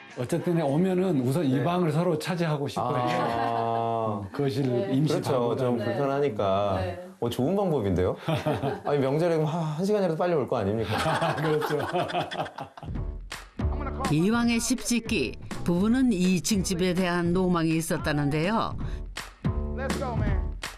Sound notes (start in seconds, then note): 10.9 hahahahaha